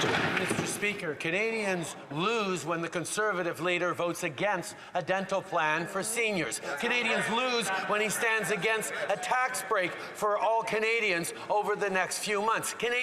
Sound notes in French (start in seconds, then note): 2.9 voix de l'interprète